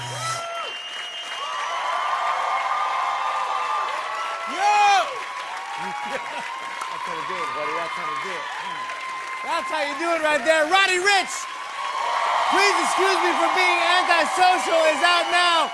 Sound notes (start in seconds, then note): 0.6 cheering, whistling, and applause; 5.8 laughs; 11.1 cheering and applause